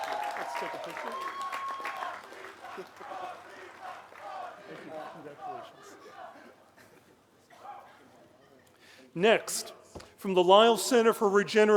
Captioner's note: applause